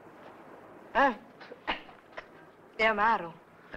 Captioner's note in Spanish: esterina escupe